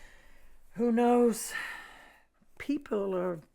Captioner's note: sighs